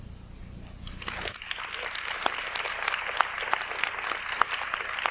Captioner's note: audience applauds